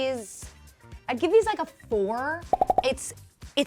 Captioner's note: popping